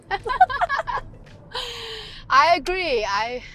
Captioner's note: Gigi and Georgia laugh